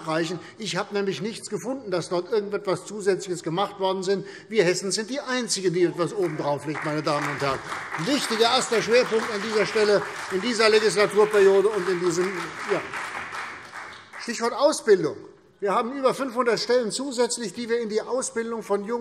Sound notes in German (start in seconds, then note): 13.0 Beifall CDU und BÜNDNIS 90/DIE GRÜNEN